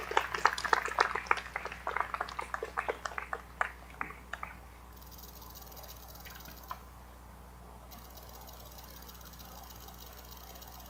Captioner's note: appaluse